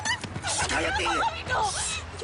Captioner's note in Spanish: Golpes y exclamaciones